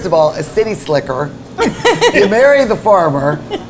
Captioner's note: laughing